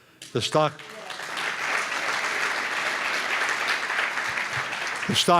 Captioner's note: applause